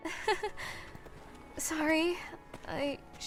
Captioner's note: nervous laugh